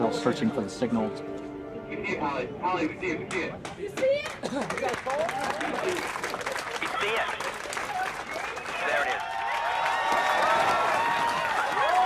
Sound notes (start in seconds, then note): 7.0 crowd cheering